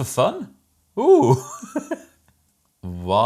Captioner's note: laughs